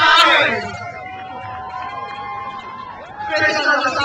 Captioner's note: crowd cheers